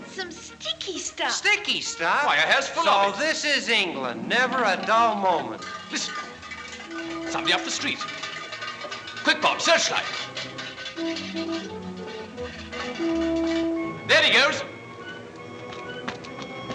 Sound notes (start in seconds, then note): 7.0 can Rattling